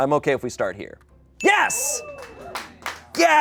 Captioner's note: bell dings; people applaud